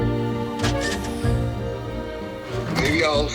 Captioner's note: vacuum hisses